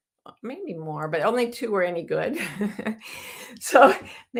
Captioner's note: chuckles